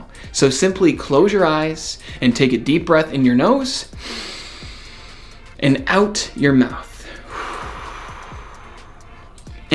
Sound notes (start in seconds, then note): 4.0 breathes in deeply; 7.0 breathes out